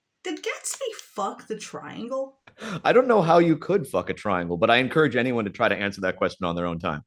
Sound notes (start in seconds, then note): 2.6 Hirsch laughs